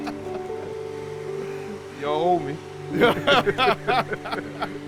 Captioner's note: laughs